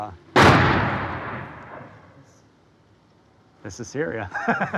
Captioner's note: bomb exploding; laughs